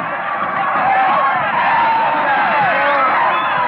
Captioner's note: yelling